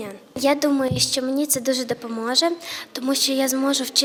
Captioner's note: <i>Ukrainian</i>